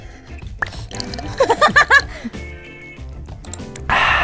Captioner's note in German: Lachen